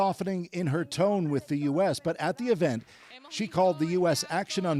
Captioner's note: speaking alternate language